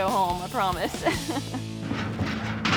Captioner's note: laughs